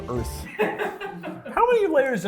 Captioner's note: laughs